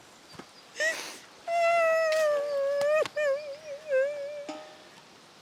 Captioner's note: Helen wailing